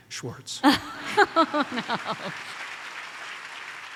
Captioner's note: audience applauds